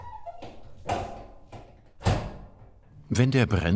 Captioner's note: metallic noises